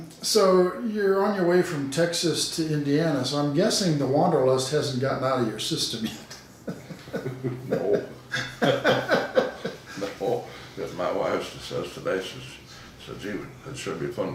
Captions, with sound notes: So you're on your way from Texas to Indiana. So I'm guessing the wanderlust hasn't gotten out of your system yet. (laughing) - No. (laughing) No. If my wife still says today, "It'd sure be fun